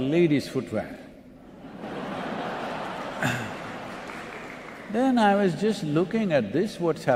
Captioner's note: laughter